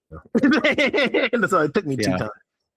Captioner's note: laughing